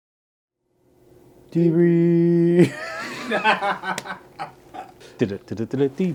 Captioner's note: laughs